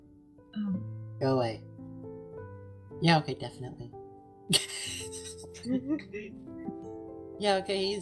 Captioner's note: giggling